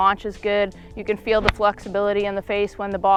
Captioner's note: golf ball smacks